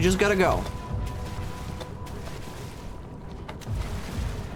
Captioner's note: distant splashing; approaching splashing